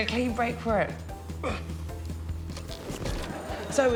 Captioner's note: grunts